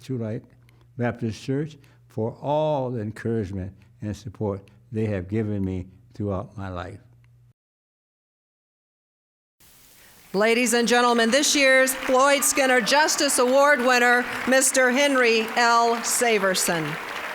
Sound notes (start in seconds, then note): 10.3 applause